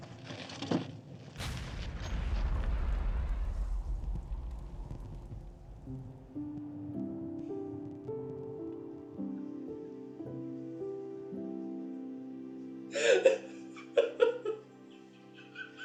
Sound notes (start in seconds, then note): 1.3 explosion; 6.4 gentle music; 12.8 sobbing